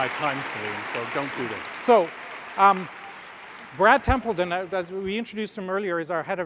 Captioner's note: applause